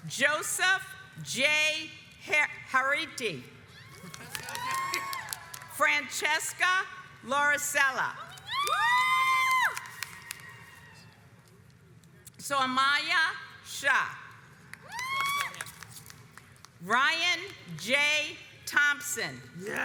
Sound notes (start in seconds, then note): 8.4 audience cheers; 14.9 audience cheers